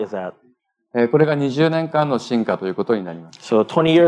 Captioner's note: speaking japanese